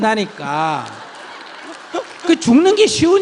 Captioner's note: questioner/Audience Applause and Laughter